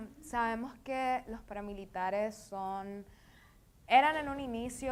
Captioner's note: speaking in foreign language